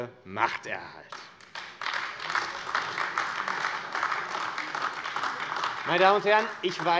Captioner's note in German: Beifall AfD